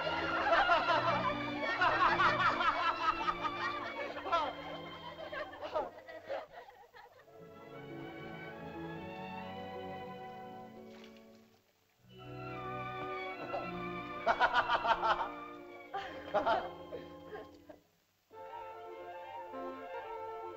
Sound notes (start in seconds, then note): 0.0 sentimental music; 0.0 laughter; 7.4 soft music; 14.2 Loana chuckles; 14.2 Tumak laughs; 18.3 soft uplifting music